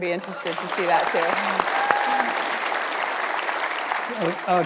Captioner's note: audience applauds